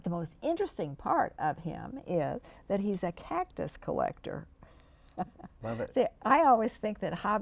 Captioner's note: laughs